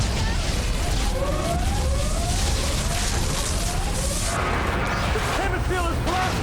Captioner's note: sirens wailing